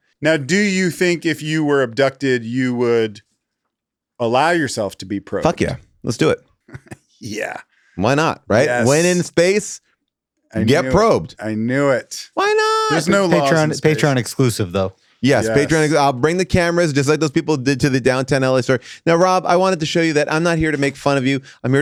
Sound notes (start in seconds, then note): 6.6 chuckles